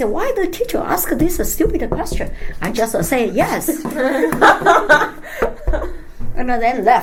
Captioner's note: all laugh